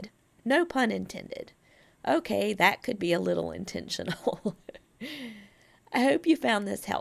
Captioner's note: laughs at self